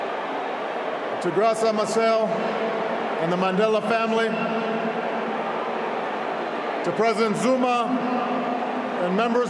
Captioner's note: applause